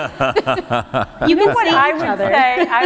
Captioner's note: laughter